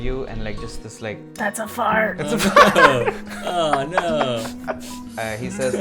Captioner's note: laughter